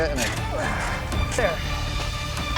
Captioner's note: grunts